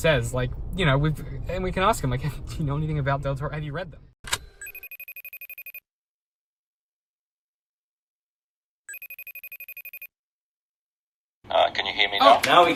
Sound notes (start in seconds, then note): 4.5 phone ringing